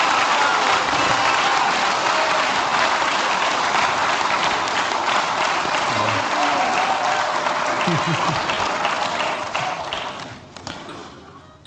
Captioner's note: applause